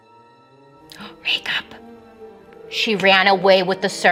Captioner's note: gasps